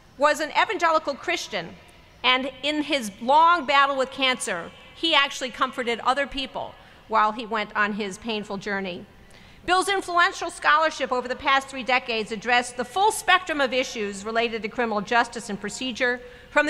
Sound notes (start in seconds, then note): none